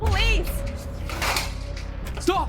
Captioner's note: intense music; door Slams